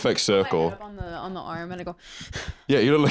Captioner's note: anxious exhale